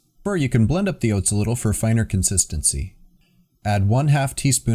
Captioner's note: none